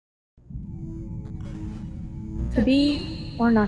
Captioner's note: electronic crackling